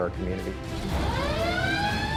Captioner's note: siren sound